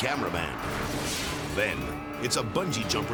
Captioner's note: dramatic whoosh